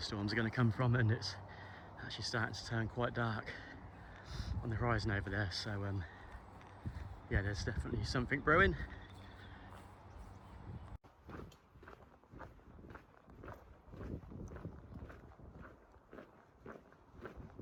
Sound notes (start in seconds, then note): 12.3 footsteps